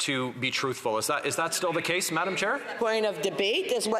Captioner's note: off mic